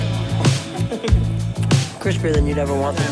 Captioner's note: laughs